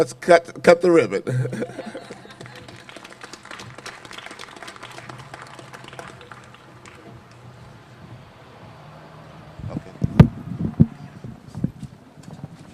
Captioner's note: applause